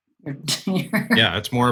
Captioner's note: chuckling